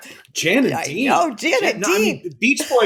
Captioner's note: laughs